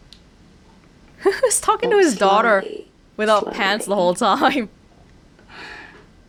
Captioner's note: chuckles